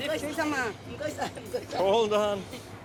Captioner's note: speaking Chinese dialect